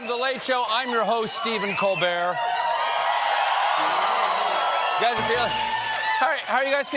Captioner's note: cheers and applause